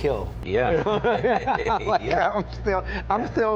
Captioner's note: laughing